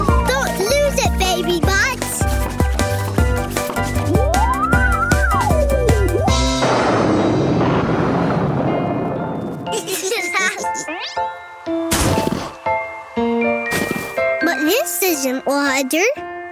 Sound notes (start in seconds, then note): 6.3 thunder crash; 9.7 giggling